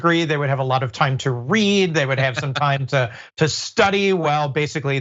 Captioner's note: laugh